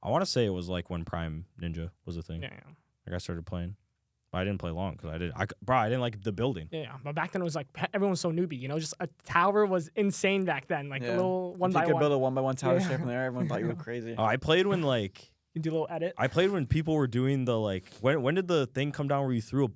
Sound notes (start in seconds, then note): 12.6 laughs